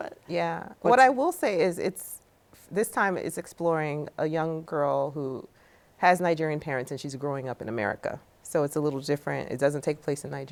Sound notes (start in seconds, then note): none